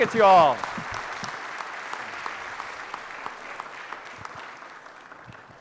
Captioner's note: audience applauding